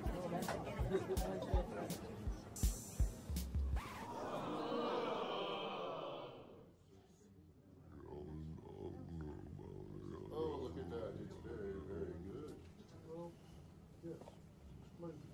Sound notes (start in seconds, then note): 3.7 record scratch; 3.8 crowd groans